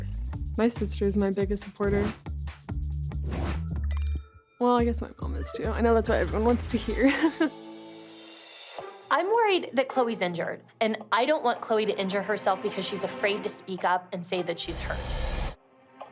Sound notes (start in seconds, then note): 6.8 laughs